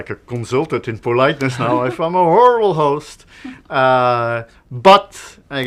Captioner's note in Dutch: lach